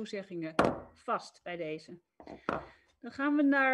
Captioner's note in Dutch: Voorzitter klopt met hamer